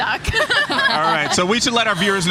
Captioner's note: laughing